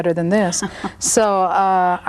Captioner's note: laughs